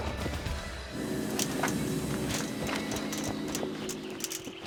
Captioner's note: buzzing